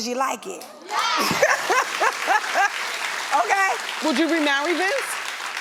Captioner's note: audience clapping